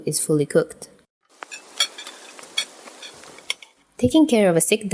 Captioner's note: plates noises